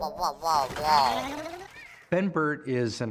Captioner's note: wall-e shuddering